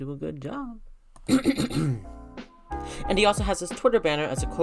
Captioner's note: clears throat